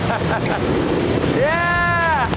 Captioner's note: laughter